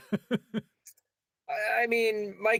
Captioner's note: laughs